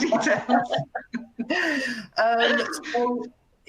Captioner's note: laughter